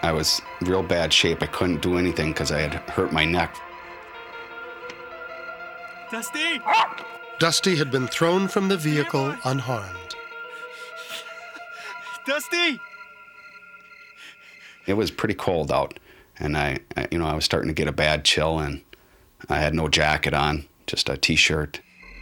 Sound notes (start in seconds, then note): 6.6 Dusty barks